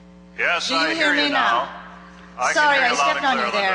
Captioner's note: voiceover